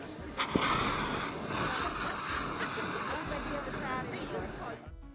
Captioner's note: extinguisher sprays